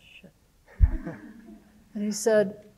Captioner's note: audience laughing